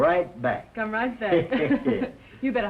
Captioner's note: chuckles